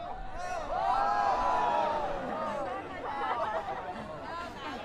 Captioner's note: people cheering